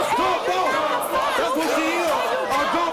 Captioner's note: crowd